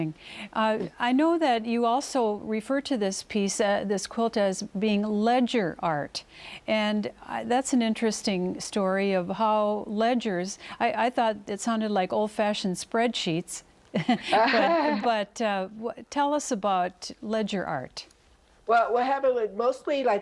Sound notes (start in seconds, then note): 13.9 both laugh